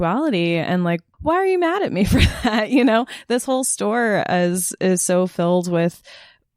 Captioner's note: laughs